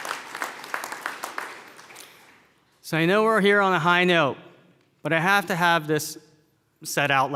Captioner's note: applause